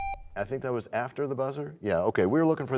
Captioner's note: buzzer sound; bell chimes, time expires